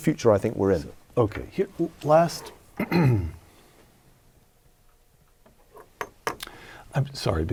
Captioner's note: cough